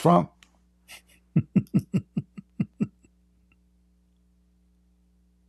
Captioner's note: Ketawa